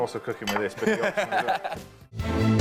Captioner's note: laughs